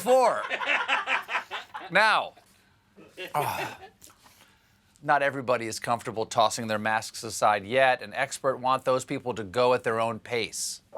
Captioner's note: laughter